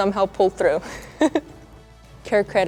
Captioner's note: chuckles